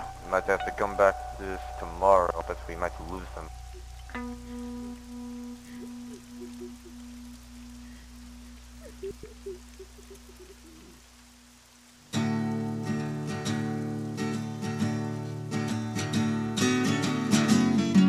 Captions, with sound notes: Might have to come back to this tomorrow but we might lose them. *Sobbing*